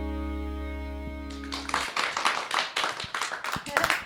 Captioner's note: applause